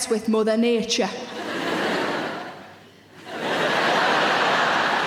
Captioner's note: audience laughs